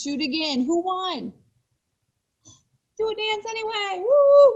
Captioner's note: yells